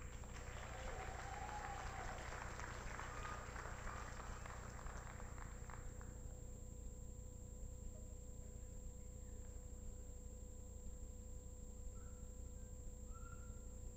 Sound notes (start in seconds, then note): 0.0 applause